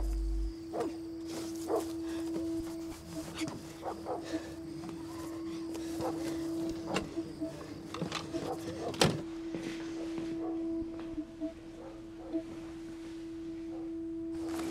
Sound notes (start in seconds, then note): 3.0 panting; 5.1 distant dog barking